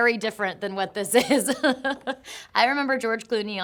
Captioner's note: Shailene laughing